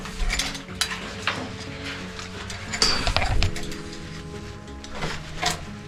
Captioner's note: clattering; metallic clinking